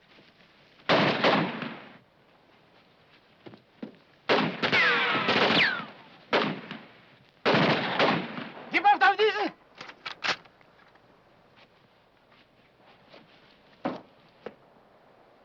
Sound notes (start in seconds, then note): 9.0 speaking foreign language; 9.7 gun clicking